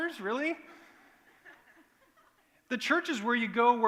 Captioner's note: laughter